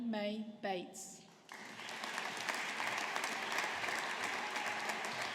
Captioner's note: audience applauding